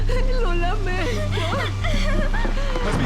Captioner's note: crying